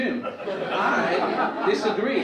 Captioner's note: audience laugh